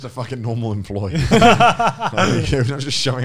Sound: all laughing

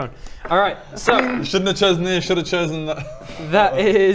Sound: laughs

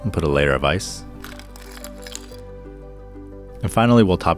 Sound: ice clinking

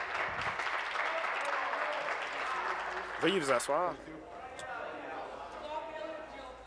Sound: applause

